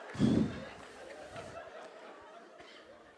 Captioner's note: audience laughs